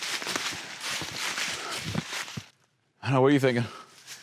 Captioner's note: leaves crunching